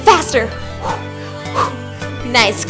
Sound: exhales

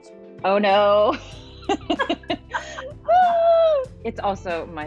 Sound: laughter

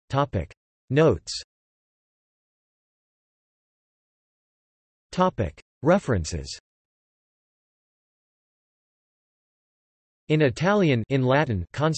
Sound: in Italian

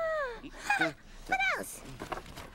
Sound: giggling

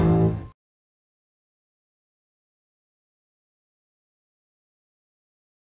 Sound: silence

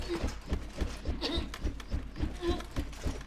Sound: gagging, grunting

